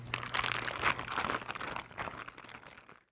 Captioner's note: bag rustling